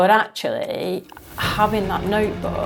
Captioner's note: clock ticking